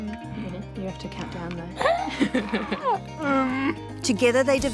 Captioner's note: both laugh